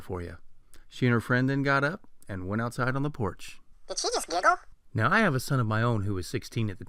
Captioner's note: funny voice; man's voice